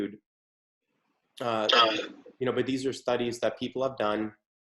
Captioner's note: unknown audio feedback